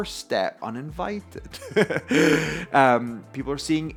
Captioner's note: laughs